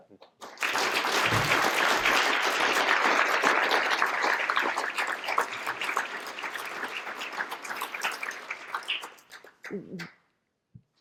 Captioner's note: applause